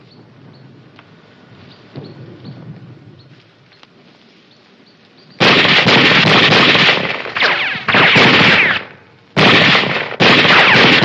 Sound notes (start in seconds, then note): 7.1 bullets ricocheting; 9.3 gunfire